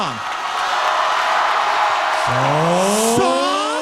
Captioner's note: audience cheering